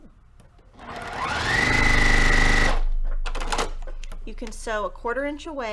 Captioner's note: sewing machine rattling